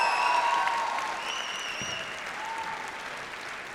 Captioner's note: applause